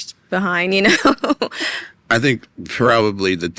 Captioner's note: laughs